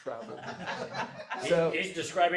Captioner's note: audience laughs